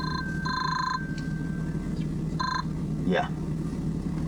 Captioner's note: ring, ring